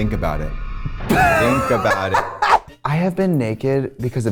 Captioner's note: Trixie cackles